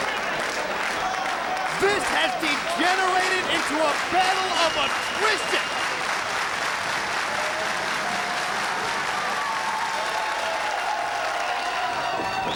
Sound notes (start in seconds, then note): 6.5 audience applauding; 6.5 audience cheering